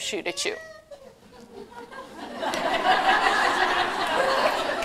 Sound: laughter

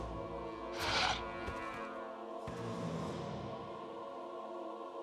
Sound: dinosaur breathing

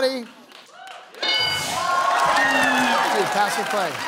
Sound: bell dings

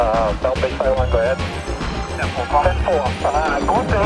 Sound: upbeat music; radio chatter

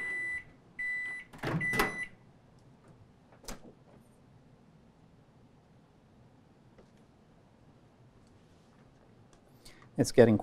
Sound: beeping; opening microwave

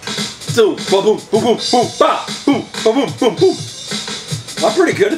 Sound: drums beating; imitating drum beats

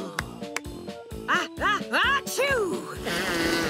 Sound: clapping; sneezes

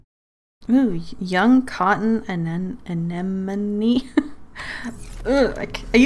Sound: laughs

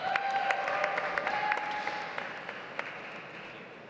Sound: audience applauds

